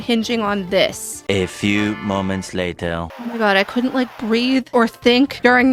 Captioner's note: french accented male narrator voice